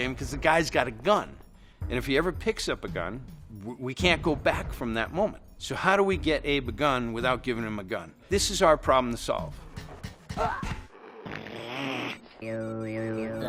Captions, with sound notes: "'cause the guy's got a gun. "And if he ever picks up a gun, "we can't go back from that moment, "so how do we get Abe a gun without giving him a gun?" This is our problem to solve. [Abe grunts] [Abe groans]